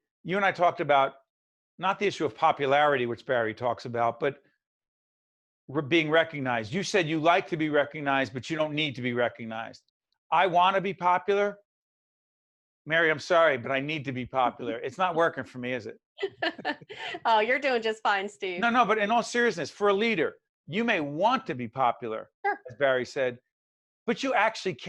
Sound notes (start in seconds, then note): 16.2 laughing